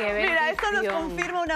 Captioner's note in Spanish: aplausos